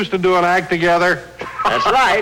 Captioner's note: chuckling